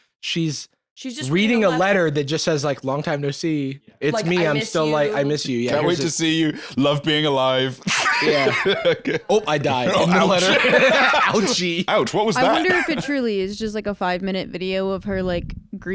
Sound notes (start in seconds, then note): 7.7 laughs